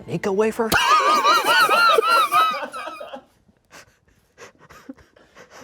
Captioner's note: and crew laugh